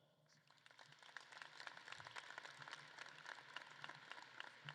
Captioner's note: audience claps